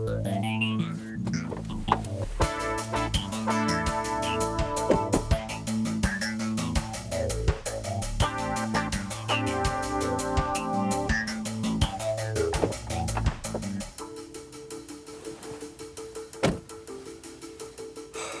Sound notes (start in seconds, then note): 4.8 car doors slam; 16.4 car door slams